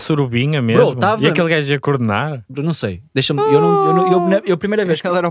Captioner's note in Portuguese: voz aguda